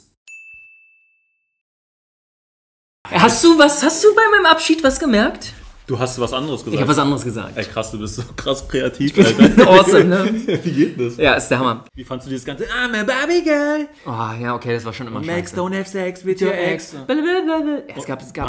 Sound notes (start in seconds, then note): 13.9 moans